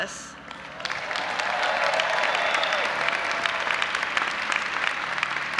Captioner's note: audience applauding and cheering